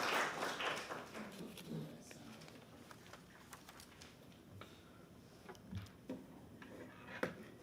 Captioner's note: applause